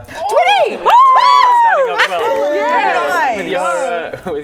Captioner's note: cheering